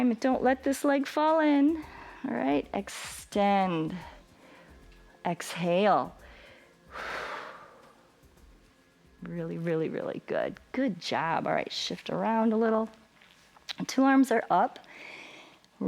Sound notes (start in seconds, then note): 6.2 exhales